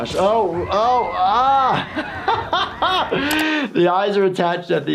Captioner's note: laughing